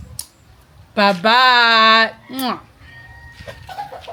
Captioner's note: kisses